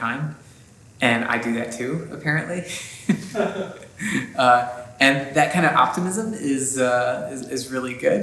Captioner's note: laughter